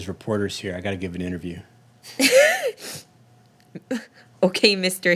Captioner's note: laughing